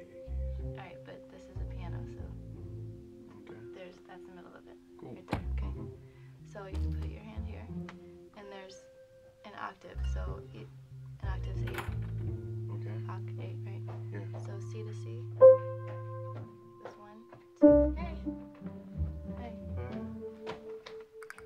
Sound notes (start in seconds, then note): 11.7 door opens